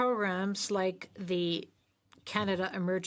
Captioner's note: speaking French